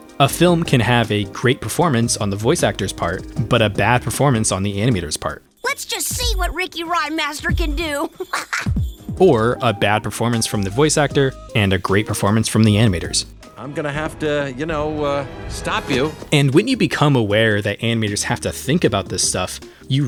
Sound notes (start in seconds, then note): 13.6 Voice of Jeff Goldblum